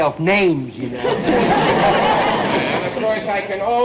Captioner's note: audience laughter